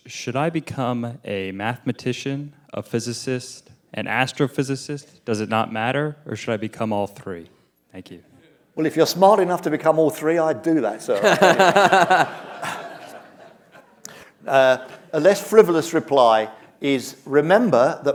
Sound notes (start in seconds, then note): 11.1 laughter